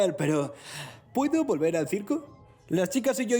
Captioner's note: inhales sharply